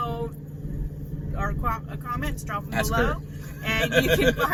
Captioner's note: laughs